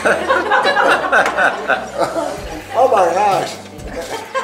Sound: people laughing

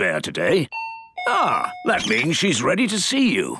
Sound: dinging

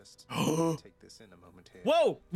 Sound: gasps in disbelief

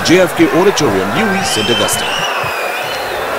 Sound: wild applause and cheering for 22 seconds

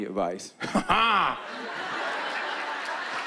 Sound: laughs

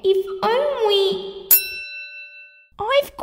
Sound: ding!

